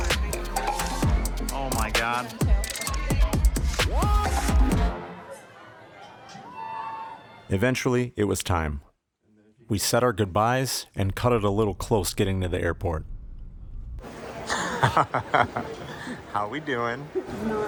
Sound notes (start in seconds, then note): 14.5 laughing